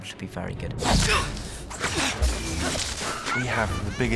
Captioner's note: all grunting